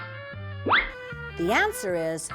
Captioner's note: whistle